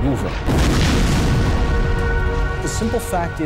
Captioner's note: explosion booming